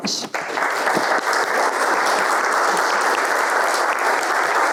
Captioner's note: audience applauding